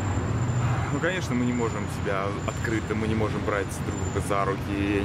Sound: speaking in foreign language

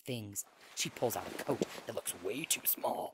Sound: coat rustles

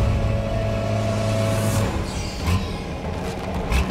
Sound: engine roars

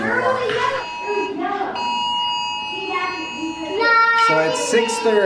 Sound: alarm buzzes

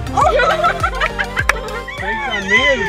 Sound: laughter

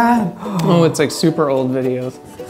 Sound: gasp

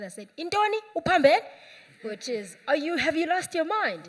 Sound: speaking a Foreign Language

